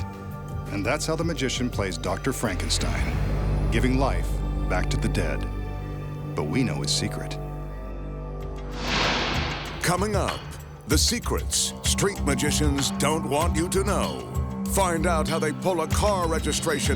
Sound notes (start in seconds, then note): 8.7 smoke whooshing